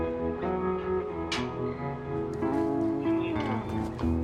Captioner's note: birds chirping sounds